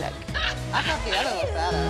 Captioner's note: laughs